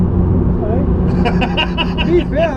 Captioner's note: laugh